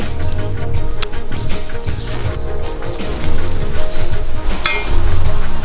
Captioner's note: invigorating instrumental music; sound of ropes tightening; invigorating instrumental music